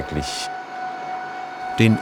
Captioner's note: high-pitched machine whirring